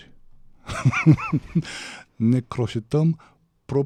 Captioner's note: laughter